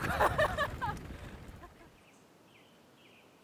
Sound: laughs

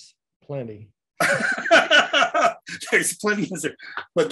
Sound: laughs

